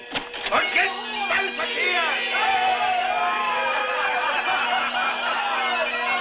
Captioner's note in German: Männer jubeln